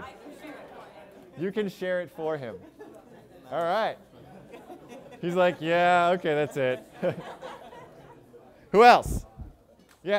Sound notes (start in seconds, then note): 7.0 laughter